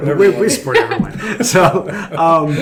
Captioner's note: laughs